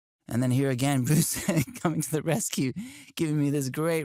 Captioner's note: laughs